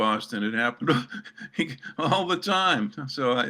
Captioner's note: laughter